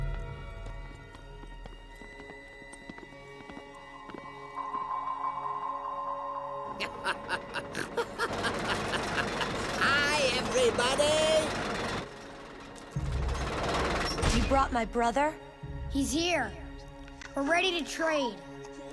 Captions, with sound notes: [laughing] Hi, everybody. You brought my brother? He's here. We're ready to trade.